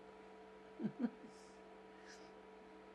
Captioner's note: laughing